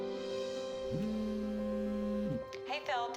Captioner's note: phone buzzing